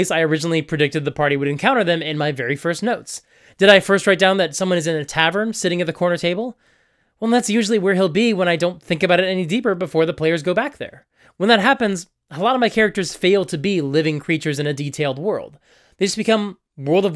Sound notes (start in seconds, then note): none